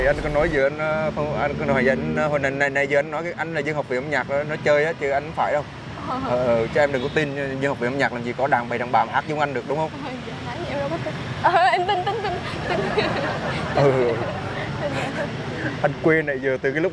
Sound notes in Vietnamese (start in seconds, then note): 11.7 Tiếng cười